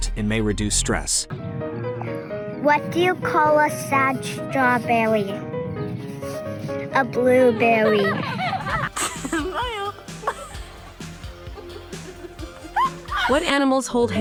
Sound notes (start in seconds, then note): 5.2 intriguing music; 6.9 children laughing; 9.9 fun music; 9.9 people laughing